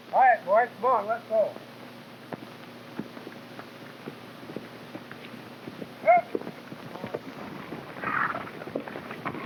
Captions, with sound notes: - All right, boys, come on, let's go. (hooves clopping) (Jim whooping)